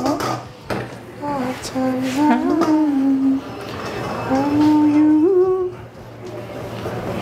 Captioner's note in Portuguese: cantarola